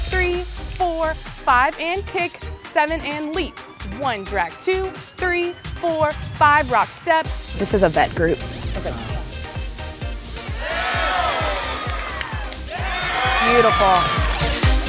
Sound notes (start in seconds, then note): 10.4 crowd cheering; 14.6 upbeat electronic dance music